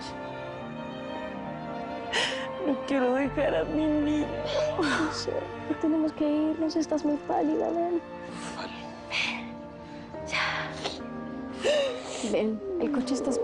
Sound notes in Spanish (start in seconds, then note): 4.3 Llorando; 11.6 Sollozos